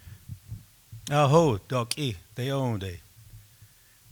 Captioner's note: speaking Kiowa